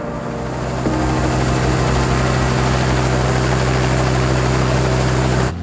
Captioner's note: helicopter whirs